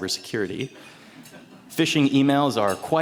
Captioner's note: attendees laughing